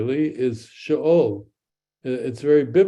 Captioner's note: speaks in Hebrew